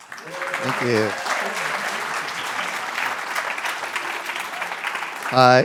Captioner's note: applause